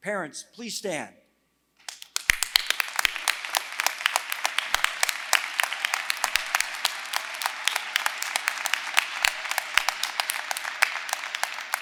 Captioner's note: applause